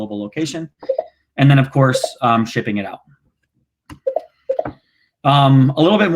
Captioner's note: clicking